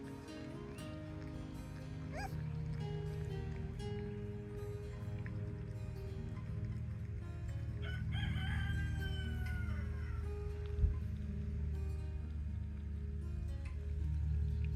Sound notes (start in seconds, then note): 7.8 rooster crows